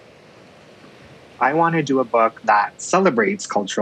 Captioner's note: waves surging then crashing